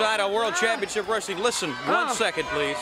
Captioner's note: crowd cheering